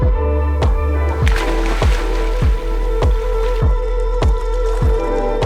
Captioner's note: water splashing